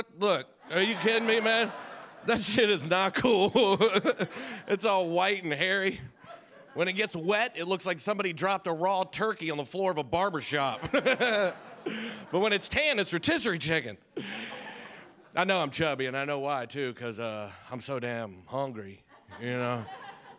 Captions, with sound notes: Look, are you kidding me, man? That shit is not cool. It's all white and hairy. When it gets wet, it looks like somebody dropped a raw turkey on the floor of a barber shop. (audience laughs) But when it's tan, it's rotisserie chicken. I know I'm chubby and I know why too. Cause I'm so damn hungry, you know?